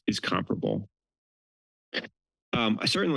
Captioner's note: pause